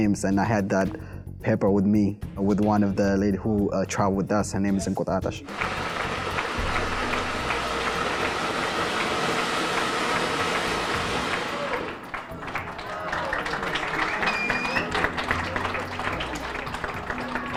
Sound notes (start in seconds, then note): 5.4 applause